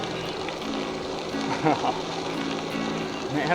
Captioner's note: happy sounds